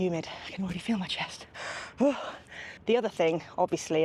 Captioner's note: gasps